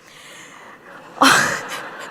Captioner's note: laughs